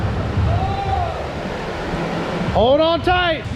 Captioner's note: distant shouting